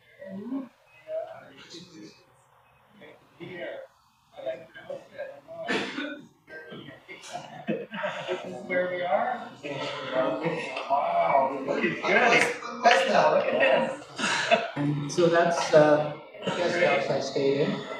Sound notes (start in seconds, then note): 10.9 people wowing